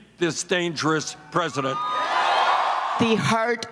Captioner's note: cheering and applause